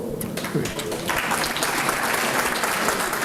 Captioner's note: applause